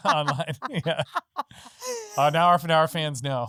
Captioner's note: laughing